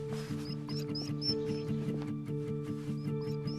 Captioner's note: dog whimpering